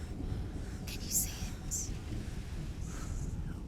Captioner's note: breathing calms; hushed